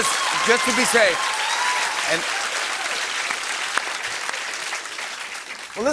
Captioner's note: cheers and applause